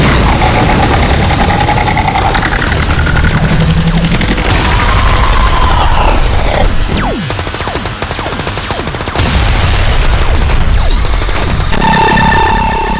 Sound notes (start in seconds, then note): 0.1 explosion booming; 4.8 explosion booming; 6.5 gun firing